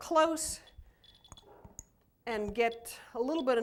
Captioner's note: beeping